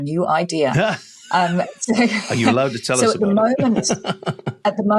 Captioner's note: laughs